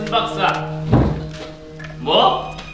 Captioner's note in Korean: 쿵, 부딪치는 소리